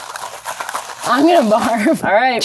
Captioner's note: laughing